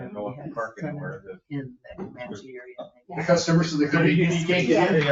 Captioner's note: people chattering